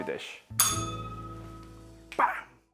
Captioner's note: bell rings